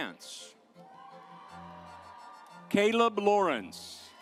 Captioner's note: audience applauds